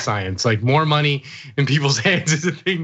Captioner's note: laugh